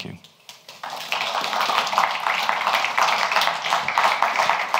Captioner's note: audience applauds